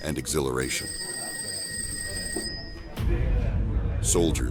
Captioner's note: phone ringing